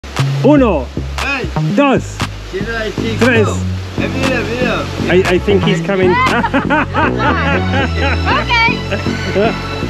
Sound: laughter

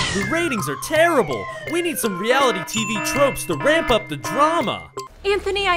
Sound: warning alarms

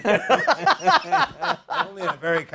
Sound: laughter

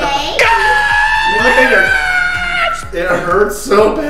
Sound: screams

